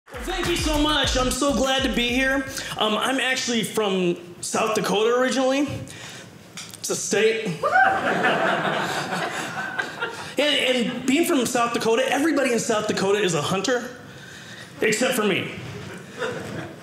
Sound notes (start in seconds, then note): 7.7 audience laughing